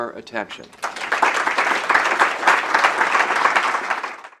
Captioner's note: applause